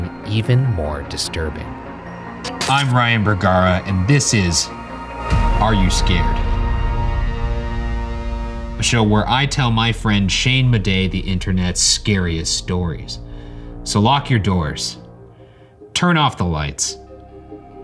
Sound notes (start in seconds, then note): 2.1 electrical buzzing; 6.5 tense music